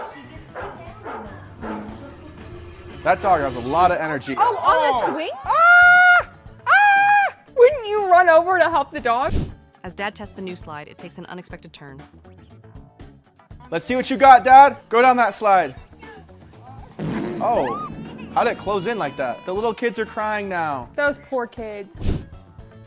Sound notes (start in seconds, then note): 0.2 people chattering; 0.4 dog barking; 5.5 screaming